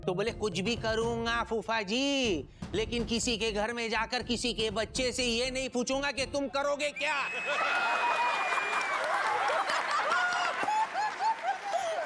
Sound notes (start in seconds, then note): 7.4 laughing